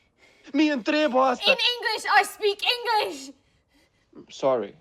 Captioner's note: speaking in foreign language